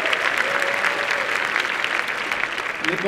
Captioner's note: applause